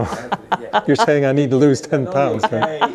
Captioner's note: laughing